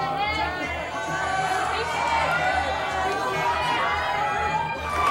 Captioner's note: crowd jeering